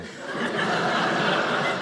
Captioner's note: audience laughing